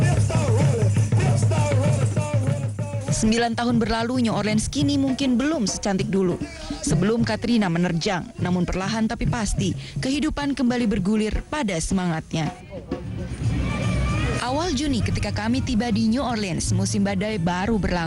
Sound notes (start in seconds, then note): 7.7 non-english speech